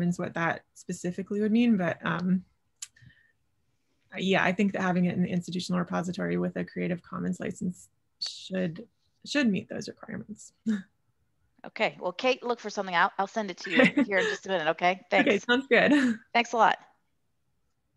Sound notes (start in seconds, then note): 13.6 laughter